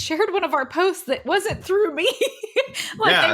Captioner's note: laughs